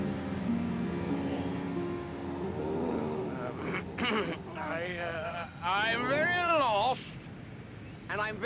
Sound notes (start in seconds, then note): 2.6 grunting; 4.0 clearing throat